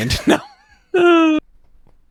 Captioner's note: sighs